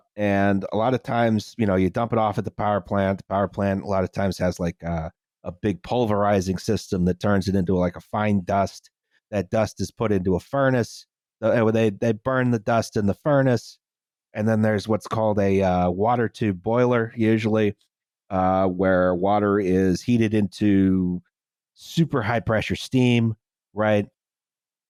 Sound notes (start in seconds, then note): none